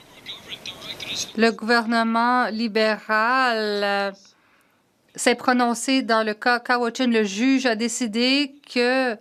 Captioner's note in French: voix de l'interprète